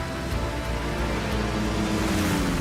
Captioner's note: propellers humming